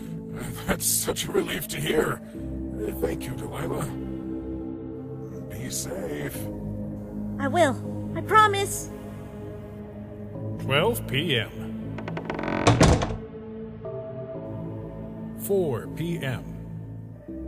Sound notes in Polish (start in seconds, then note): 11.8 dźwięk skrzypiących drzwi